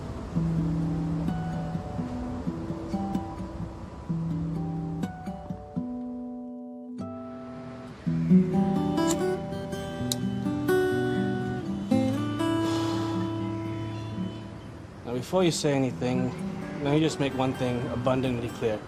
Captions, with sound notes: [somber string music] [light sparks] Now, before you say anything, lemme just make one thing abundantly clear.